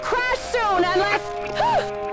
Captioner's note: gasps